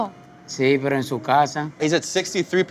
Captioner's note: talks in foreign language